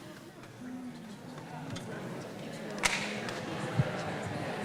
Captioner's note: audience murmurs